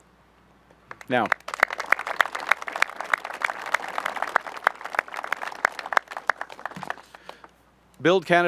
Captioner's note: applause